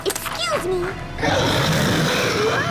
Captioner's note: roars